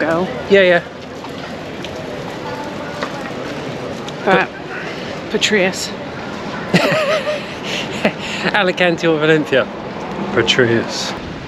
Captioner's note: laughs